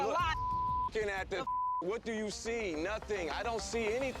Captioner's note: beep